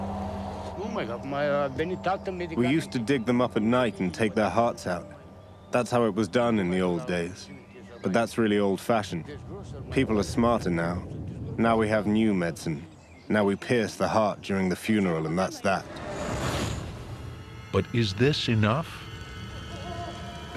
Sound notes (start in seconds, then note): 0.7 speaking Romanian